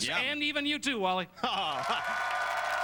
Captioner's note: chuckles